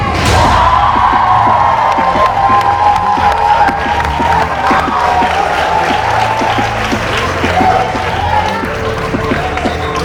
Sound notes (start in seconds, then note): 0.9 crowd; 3.3 clapping